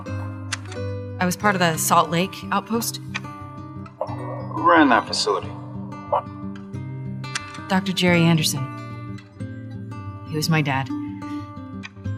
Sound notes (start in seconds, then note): 0.0 voice on the Radio; 3.8 voiceon Radio